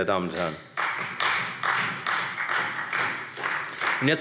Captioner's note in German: Beifall Freie Demokraten